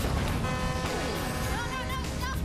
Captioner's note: ship horn blows